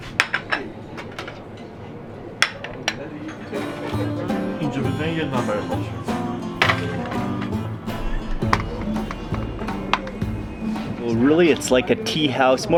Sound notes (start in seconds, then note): 0.3 dishes clattering; 4.6 dishes clattering; 4.6 speaks in foreign language